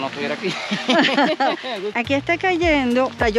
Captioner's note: laughs